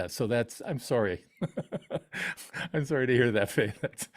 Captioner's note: laughs